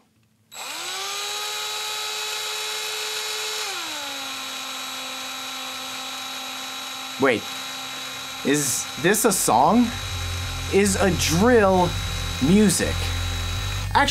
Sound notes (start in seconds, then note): 4.3 drill noise